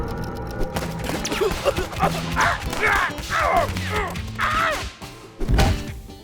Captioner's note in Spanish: balas golpeando